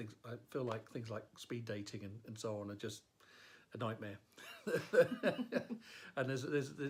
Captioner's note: laughs